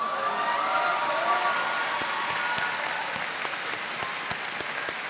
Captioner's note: applause